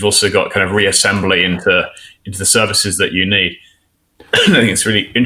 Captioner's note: coughs